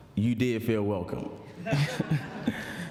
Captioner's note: laughter